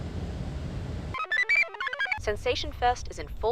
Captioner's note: computer chirps